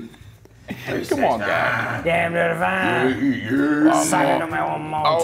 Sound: laugh

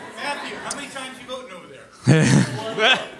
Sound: voiceover

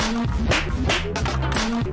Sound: slap!

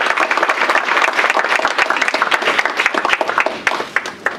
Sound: applause

